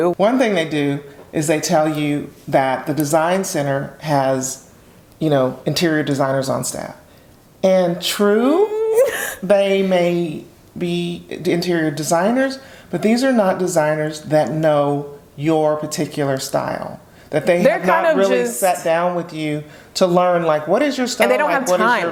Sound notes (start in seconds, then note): 8.3 humming suspiciously